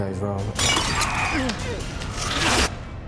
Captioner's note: grunting